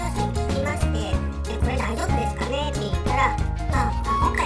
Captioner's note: drinking